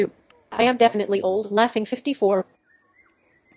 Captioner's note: laughing